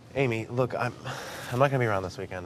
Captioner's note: sharp breath